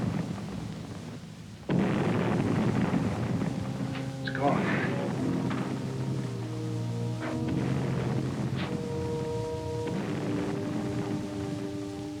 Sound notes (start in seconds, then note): 7.5 explosions booming